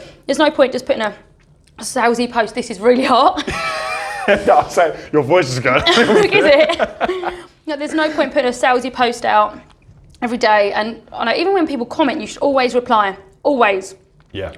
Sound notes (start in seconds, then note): 3.4 laughs